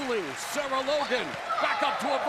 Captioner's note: crowd cheering